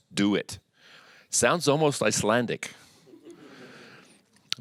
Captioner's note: audience chuckles